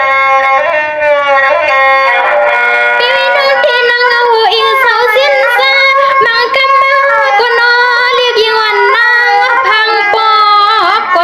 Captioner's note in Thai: ปรบมือ